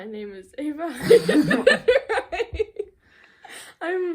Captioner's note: laughter